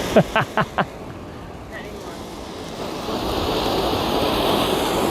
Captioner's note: fireworks crackling